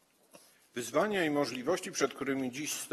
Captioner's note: speaking polish